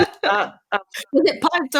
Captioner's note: both laugh; laughing